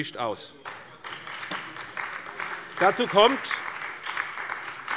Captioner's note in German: Beifall bei der SPD